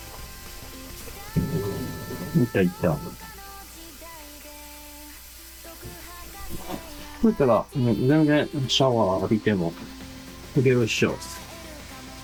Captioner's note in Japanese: ポンプの音